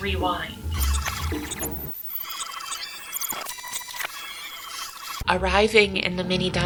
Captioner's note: high-pitched rewinding noise